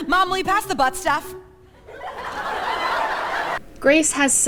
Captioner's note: laughter